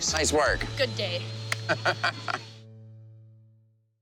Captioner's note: laughs